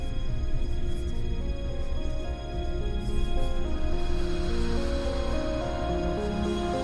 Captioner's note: dark, menacing music; disembodied whispers